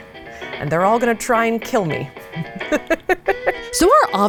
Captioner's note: laughs